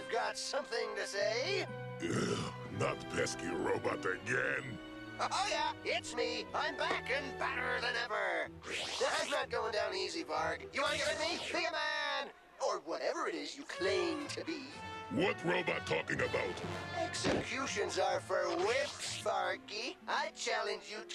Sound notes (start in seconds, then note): 2.0 sighs